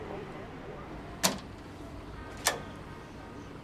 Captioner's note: door unlocking